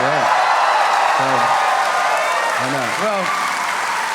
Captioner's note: audience cheering